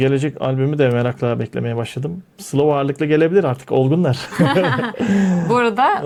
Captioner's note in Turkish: kahkaha